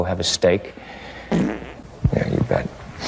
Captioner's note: fart; ˢⁿᶦᶠᶠ ˢⁿᶦᶠᶠ ˢⁿᶦᶠᶠ